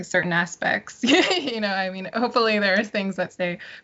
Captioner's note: laughs